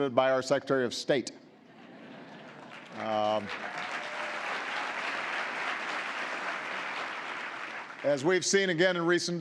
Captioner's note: laughter and applause